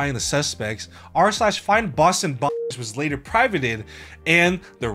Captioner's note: beep